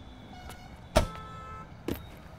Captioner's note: Car door slamming